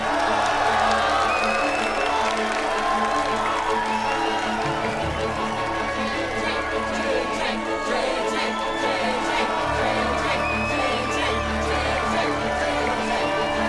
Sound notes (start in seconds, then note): 0.2 cheering and applauding; 7.2 crowd chanting